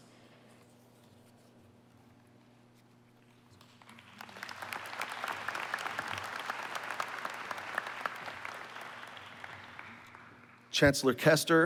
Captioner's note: applause